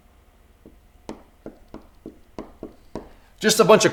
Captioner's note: tapping